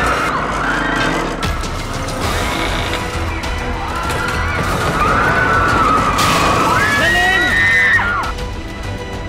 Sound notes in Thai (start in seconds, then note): 0.0 เสียงความวุ่นวาย; 3.9 เสียงความวุ่นวาย